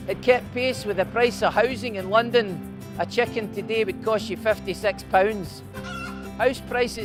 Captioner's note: cluck!